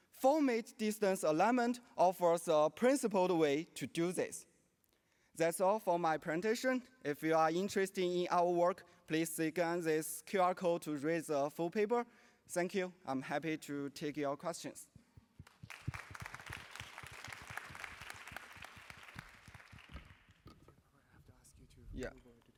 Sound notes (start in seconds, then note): 15.4 applause